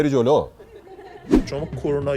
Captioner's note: laughter